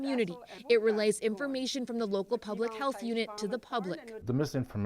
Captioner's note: speaking foreign language